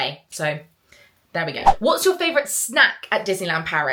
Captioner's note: screen fwipping